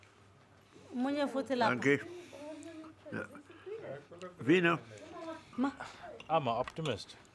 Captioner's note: guy chattering in foreign language; people chattering in foreign language